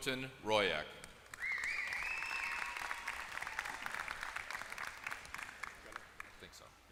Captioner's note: applause